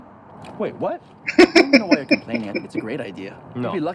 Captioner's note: laughing